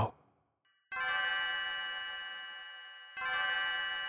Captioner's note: bells tolling